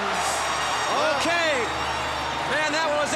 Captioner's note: crowd cheering